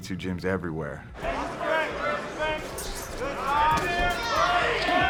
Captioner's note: audience chattering